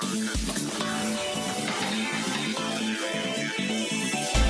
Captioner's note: LG GM310 ringtone